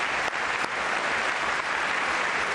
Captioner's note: applause